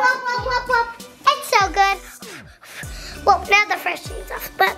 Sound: blows

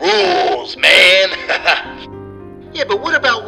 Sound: laughs

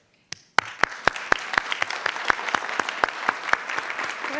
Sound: audience applauding

